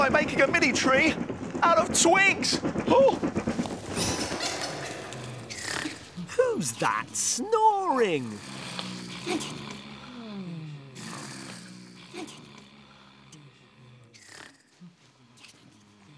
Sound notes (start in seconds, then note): 6.3 snoring